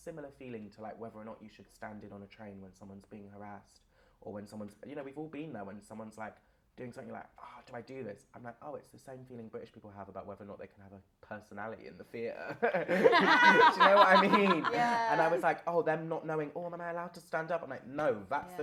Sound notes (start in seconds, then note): 12.4 laughter